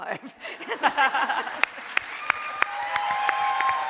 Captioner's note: audience cheering